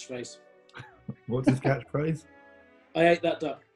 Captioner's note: chuckling